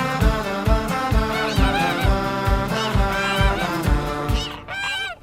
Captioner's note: chatter